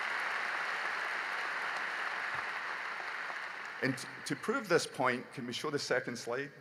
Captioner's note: applause